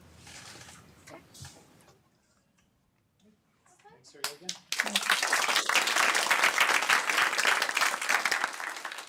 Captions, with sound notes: Thank you again. [APPLAUSE]